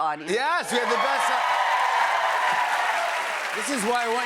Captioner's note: cheers and applause